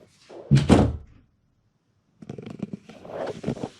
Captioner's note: door thuds shut